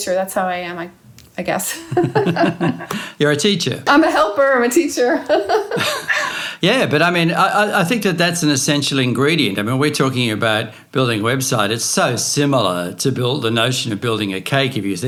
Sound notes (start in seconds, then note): 1.7 laughing; 5.1 laughing